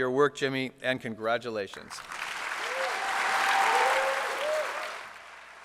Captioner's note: applause